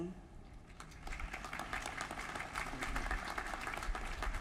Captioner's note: applause